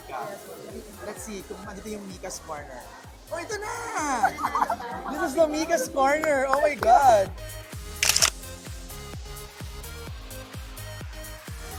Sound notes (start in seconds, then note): 4.2 giggles; 8.0 camera shutter clicks; 9.3 upbeat music continues